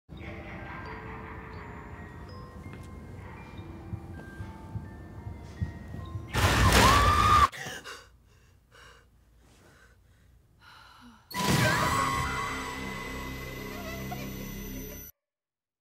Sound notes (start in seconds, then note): 0.1 soft eerie music; 6.3 monster yelling; 6.4 screaming; 7.5 gasping; 11.3 eerie music; 11.4 screaming